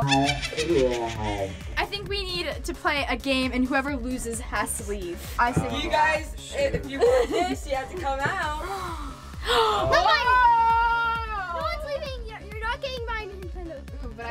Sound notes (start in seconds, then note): 8.5 gasps